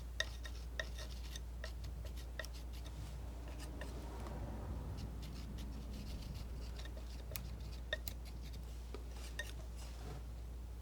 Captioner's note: tapping